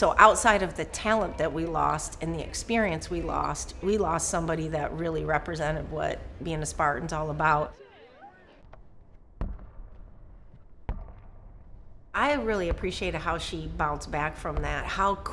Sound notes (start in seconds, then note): 8.6 ball bounces on court